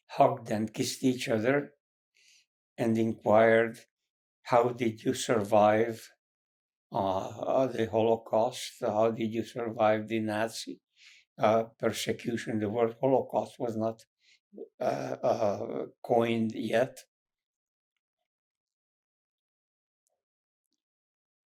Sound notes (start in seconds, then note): 17.1 pauses 8 seconds